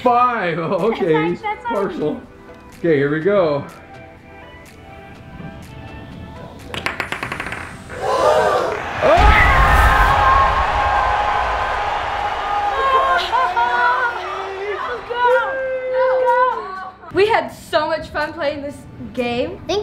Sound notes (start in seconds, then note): 6.6 ball clacks; 7.9 thwack and cheers; 8.0 enthralled crowd